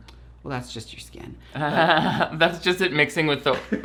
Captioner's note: laughs